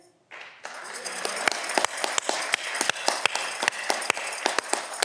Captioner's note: audience clapping